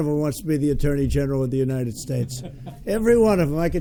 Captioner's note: laughter